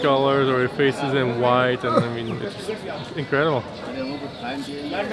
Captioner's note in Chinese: 咳嗽